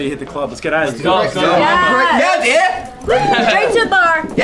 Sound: all cheering

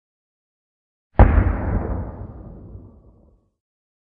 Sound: sound of war

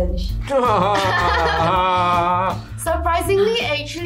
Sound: laughs

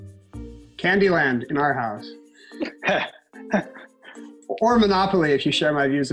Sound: laughs

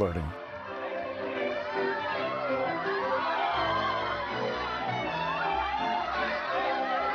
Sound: upbeat music; people cheering

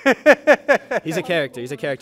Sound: laughs

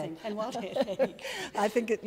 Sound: laughs

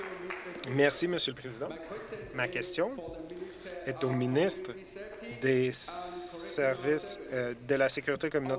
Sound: some Applause

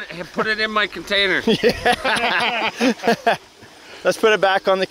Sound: laughing

